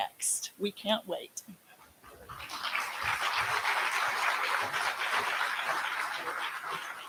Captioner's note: applause